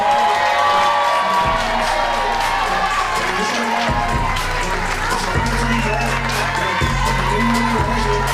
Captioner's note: cheers and applause